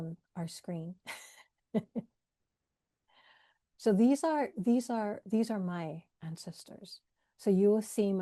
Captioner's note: laughs